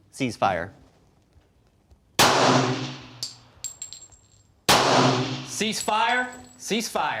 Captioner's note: two pistol shots